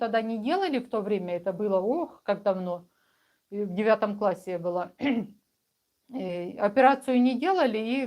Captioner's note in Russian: откашливается